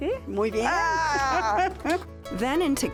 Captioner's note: laughs